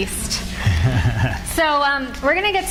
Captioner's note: laughs